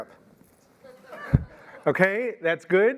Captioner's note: audience laughs